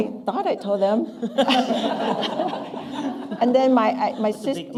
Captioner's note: laughter